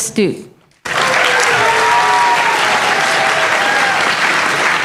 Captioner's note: applause